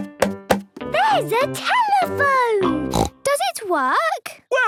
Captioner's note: snorts